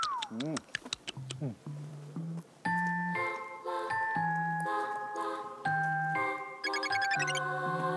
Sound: eating

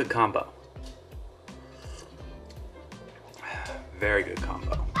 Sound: slurps hard

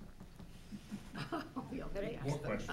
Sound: laughing

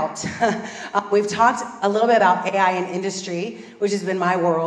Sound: laugh

